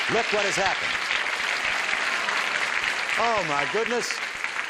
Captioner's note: applause